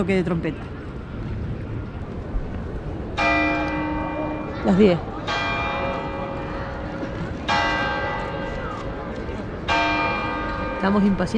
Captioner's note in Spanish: Campanadas